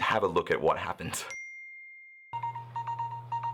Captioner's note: dings; phone rings